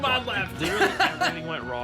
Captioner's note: laughs